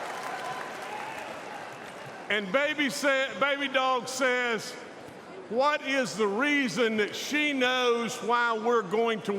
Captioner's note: cheers and applause